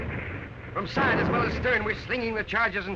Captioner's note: voiceover